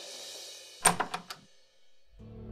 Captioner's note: door opens